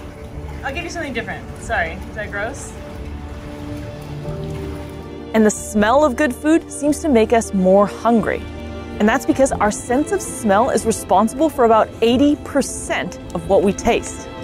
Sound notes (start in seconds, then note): 2.7 background music; 2.7 water splashing sounds